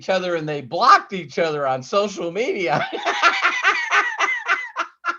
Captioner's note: laughs